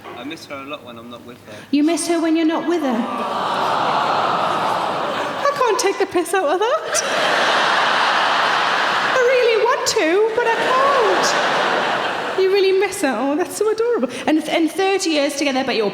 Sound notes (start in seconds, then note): 3.0 audience awws; 6.5 audience laughing